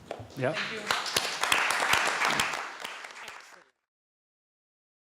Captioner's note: applause